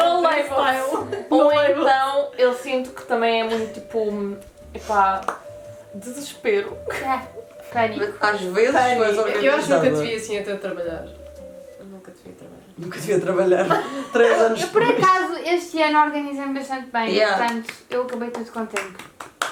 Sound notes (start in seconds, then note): 13.6 laughs; 19.2 clapping